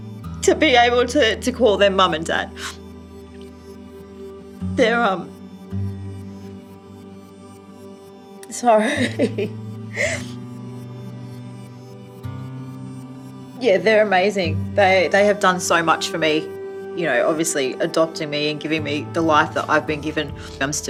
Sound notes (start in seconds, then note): 6.0 tender instrumental music; 9.9 sobbing